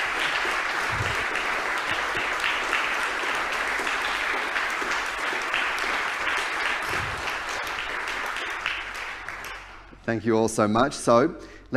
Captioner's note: applause